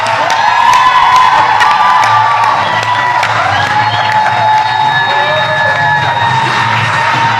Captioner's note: cheers and applause